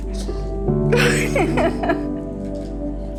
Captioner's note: laughs